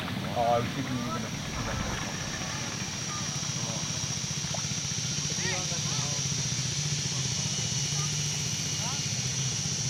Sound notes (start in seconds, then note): 0.9 insects chirping